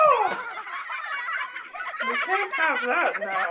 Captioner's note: laughter